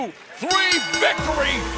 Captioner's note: bell ringing